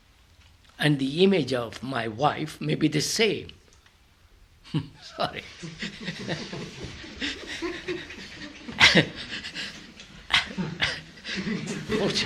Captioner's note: laughter